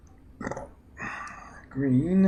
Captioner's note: burps